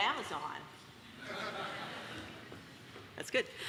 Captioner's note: audience laughs